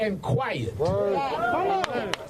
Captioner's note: applause